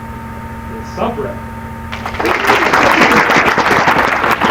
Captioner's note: applause